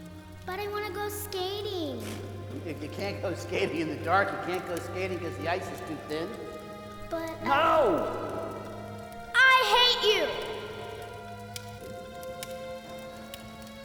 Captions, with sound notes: - But I wanna go skating. - (scoffing) You can't go skating in the dark, you can't go skating 'cause the ice is too thin. - But-- - No! - I hate you!